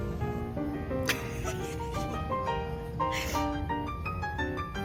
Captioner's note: laughing